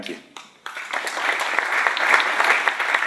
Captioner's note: applause